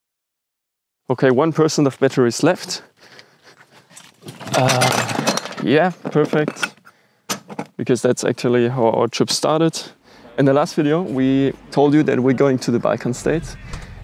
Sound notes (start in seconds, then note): 4.3 coffeepot falls over